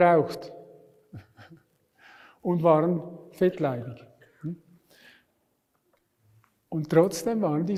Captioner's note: laughs